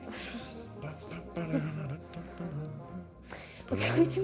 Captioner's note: laughs; he hums in her ear